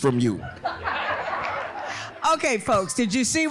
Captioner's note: laughing